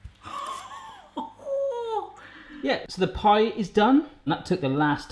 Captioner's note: laughs